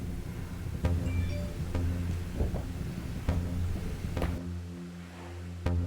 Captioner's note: notification dings